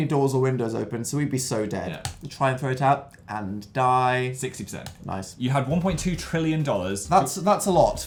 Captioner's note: singsong